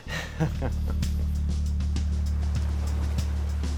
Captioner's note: chuckles